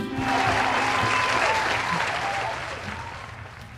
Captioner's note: crowd cheering